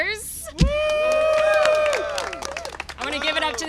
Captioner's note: applause and cheering